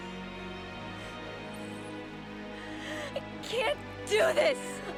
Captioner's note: sobs